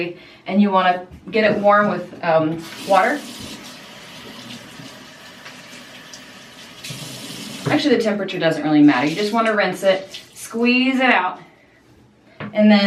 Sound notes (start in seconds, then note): 2.6 faucet running